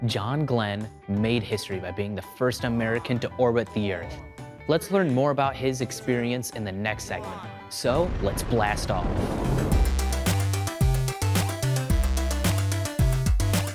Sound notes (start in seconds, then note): 8.5 shuttle engine roars; 9.4 upbeat music